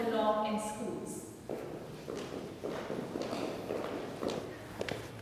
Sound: footfalls thud loudly

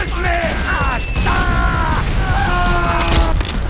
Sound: screaming

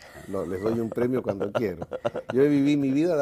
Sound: ríen

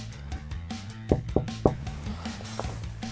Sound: knock, knock

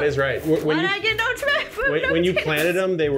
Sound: mumbling

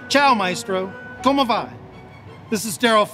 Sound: speaking in foreign language

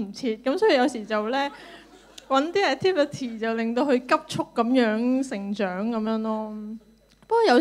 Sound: laughter

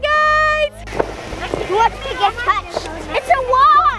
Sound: kids chattering

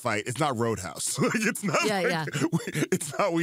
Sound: laughs

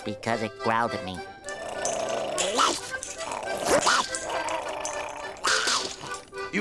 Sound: growling

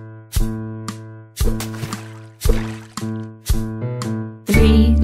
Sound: water splashing

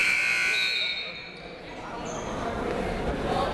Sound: buzzer ringing; people talking in the crowd

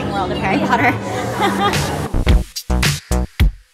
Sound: laughs

